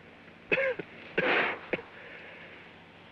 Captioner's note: coughs